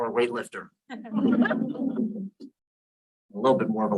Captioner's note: audience laughs